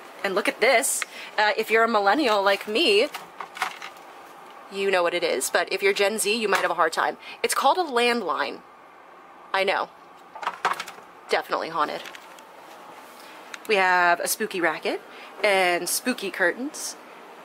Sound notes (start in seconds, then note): 10.4 phone clanking